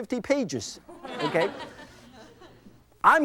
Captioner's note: crowd laughs